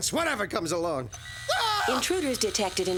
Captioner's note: yelling